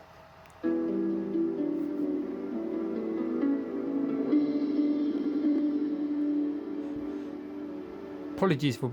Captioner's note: bbc multimedia startup sound